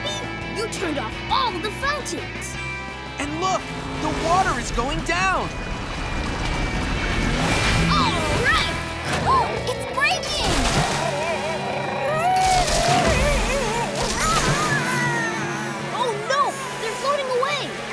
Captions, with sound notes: You turned off all of the fountains! And look, the water is going down! All right! [gasping] It's breaking! [whimpering] Oh, no! They're floating away!